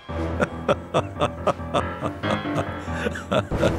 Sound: laughs

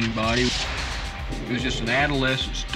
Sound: engine revs

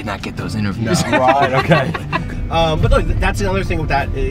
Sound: laughing

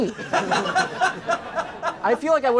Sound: laughter; people laughing for absolutely nothing

